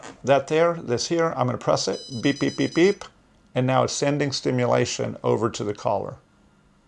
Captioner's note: repetitive beeping, stops